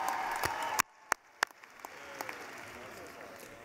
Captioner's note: cheering